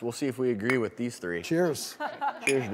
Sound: audience laughing

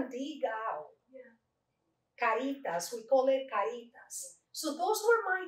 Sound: Spanish

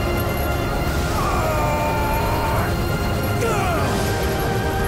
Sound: screaming

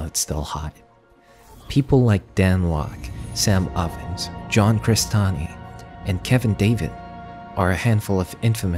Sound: glitch sound effects

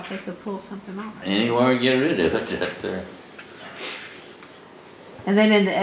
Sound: laughs

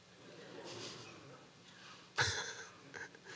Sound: laughing

